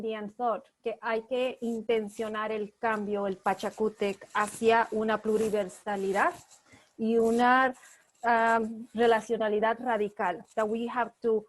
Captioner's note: speaking spanish